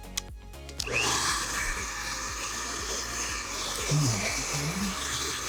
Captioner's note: hair dryer blows